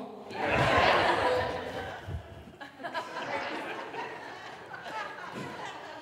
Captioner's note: audience laughing